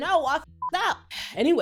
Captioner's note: beep